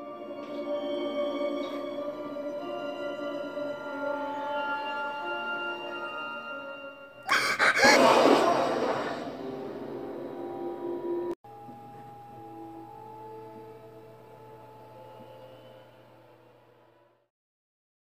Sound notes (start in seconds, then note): 7.2 sobbing